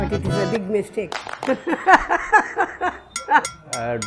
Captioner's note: laughs